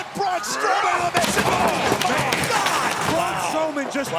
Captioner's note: objects clattering